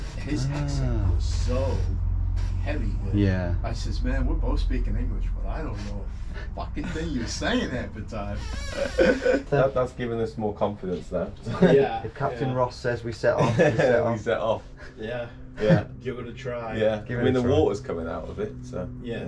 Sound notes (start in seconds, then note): 6.4 laughs